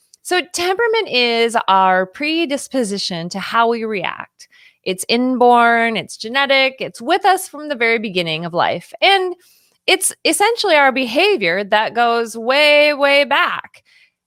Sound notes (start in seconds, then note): none